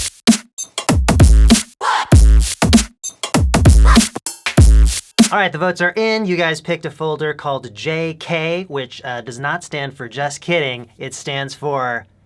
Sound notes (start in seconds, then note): 0.7 bass-heavy theme; 3.1 bass-heavy theme; 3.8 higher pitched* WAH